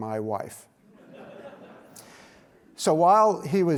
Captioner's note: audience laughs